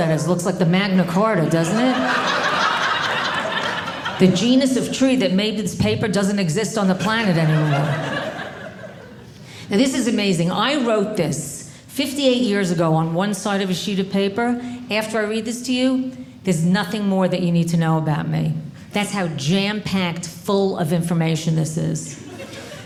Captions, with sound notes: Looks like the Magna Carta, doesn't it? (audience laughing) The genus of tree that made this paper doesn't exist on the planet anymore. Now, this is amazing. I wrote this 58 years ago on one side of a sheet of paper. After I read this to you, there's nothing more that you need to know about me. That's how jam-packed full of information this is.